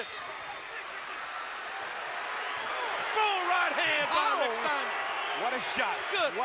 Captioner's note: applause